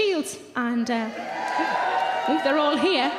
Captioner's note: audience cheering